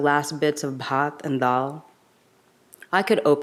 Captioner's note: speaks in a foreign language